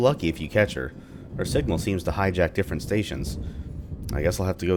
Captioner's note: thunder